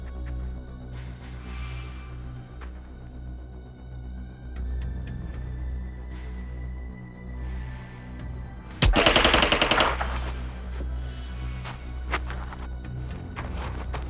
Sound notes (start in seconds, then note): 8.8 gunshots popping; 11.2 ominous music